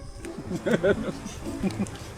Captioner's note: laughs